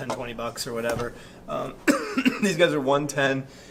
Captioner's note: coughs